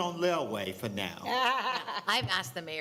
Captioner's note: laughing